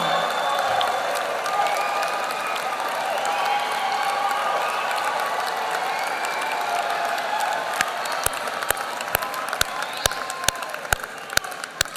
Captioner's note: applause